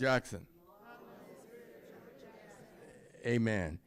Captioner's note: crowd